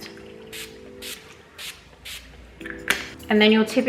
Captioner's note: spray bottles hisses